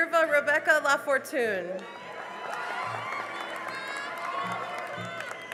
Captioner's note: cheering and applause